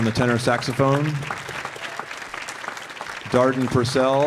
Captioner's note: audience applauding